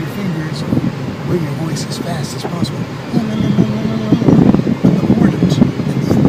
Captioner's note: demonstrates a trill